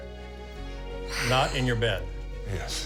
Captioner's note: sighs; chuckles